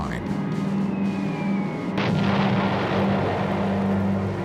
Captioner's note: explosion